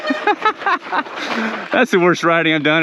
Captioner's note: biker laughs